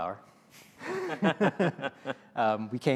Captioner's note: laughter